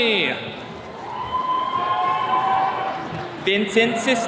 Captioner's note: attendees cheering